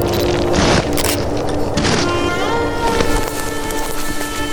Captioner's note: camera clicks; footsteps scrunching; dirt rustling